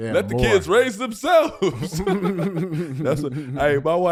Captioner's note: laughing